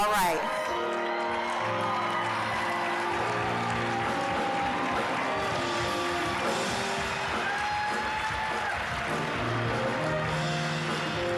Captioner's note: applause, cheering; uplifting music